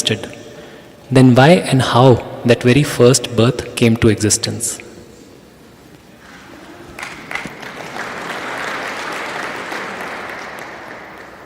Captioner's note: applause